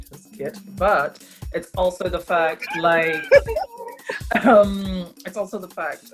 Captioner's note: laughs